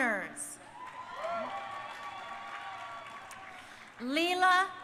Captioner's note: crowd cheering